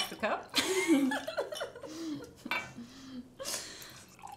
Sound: both laughing

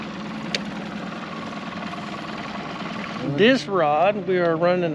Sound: boat engine idling

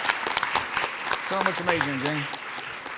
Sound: audience applauds

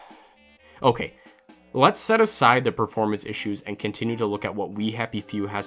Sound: sigh

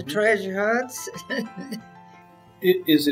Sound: laughs

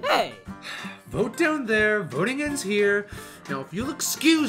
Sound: sigh

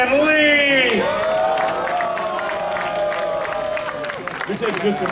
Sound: audience cheering

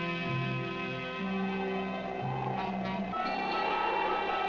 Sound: wind blowing

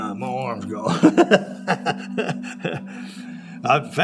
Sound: laughing

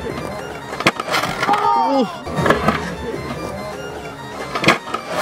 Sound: crowd groans

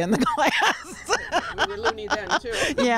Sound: laughs

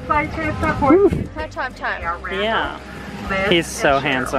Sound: noisy background

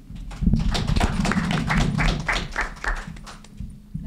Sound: group applauds

